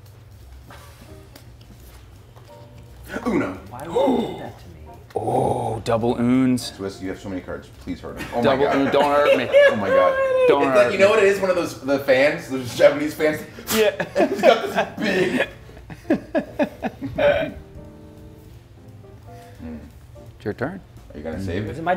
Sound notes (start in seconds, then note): 11.7 laugh; 17.0 laugh